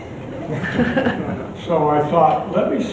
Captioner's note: chuckles